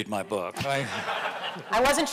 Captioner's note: audience laughing